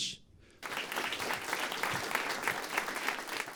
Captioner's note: applause